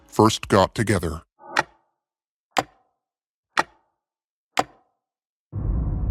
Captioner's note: clock ticking